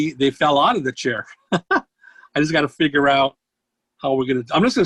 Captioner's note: laughs